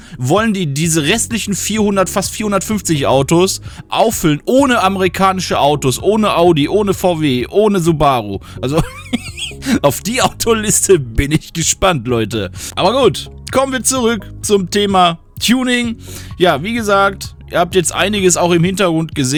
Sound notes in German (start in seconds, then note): 8.7 gelächter